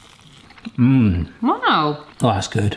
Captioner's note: scotch eggs crunching; hums